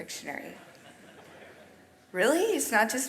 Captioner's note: audience chuckles